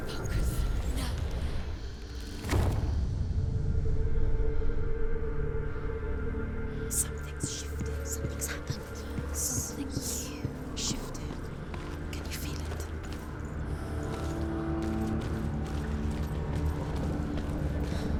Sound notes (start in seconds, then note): 7.0 whispering